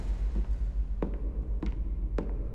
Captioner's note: door closes, footsteps